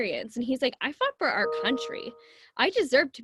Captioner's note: computer ding